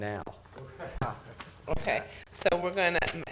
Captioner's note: chuckling